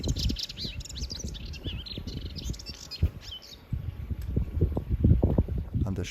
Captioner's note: birdsong